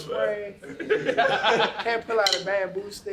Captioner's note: laughter